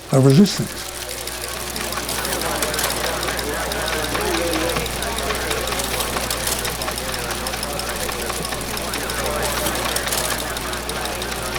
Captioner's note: squawking walkie talkie, teletype and sound of photocopy machine